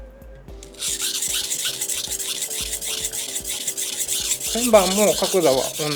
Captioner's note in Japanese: 刃先を研ぐ音